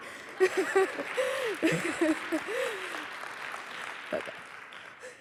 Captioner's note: applause